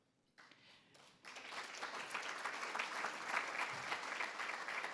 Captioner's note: attendees applauding